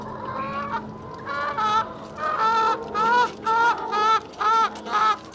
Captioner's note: chicken sounds intensify